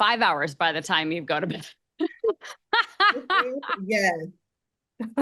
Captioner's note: laughs